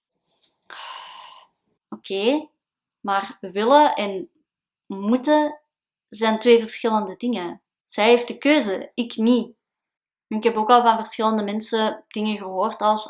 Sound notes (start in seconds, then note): 0.7 sigh